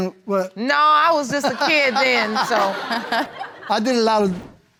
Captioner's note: all laughing